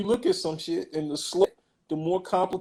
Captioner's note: glitch